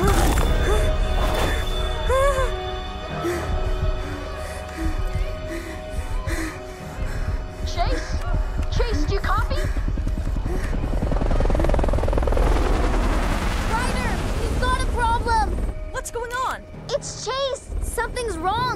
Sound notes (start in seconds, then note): 10.9 whirring